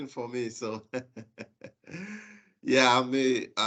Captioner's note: chuckles